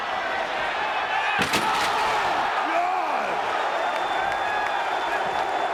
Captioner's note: table cracking; crowd exclaiming and clapping